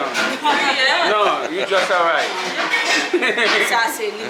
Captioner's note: laughing